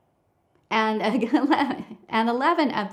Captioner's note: chuckles